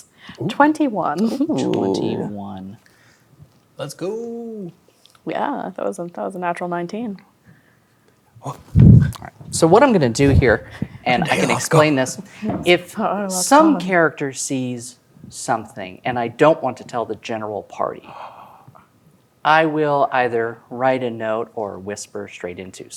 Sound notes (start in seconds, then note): 18.1 gasps